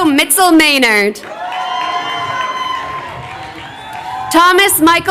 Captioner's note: crowd cheering